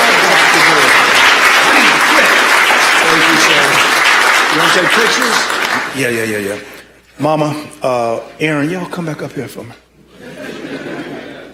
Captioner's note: applause